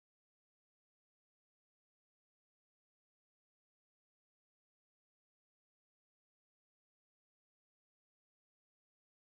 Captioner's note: static buzzing